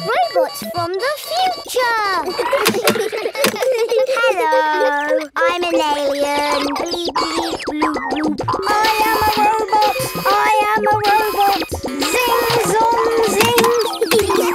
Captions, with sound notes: (LAUGHS) Robots from the future! (KIDS GIGGLING) Hello, I'm an alien. Bleep, bleep, bloop, bloop! I am a robot. I am a robot. Zing! Zong! Zing!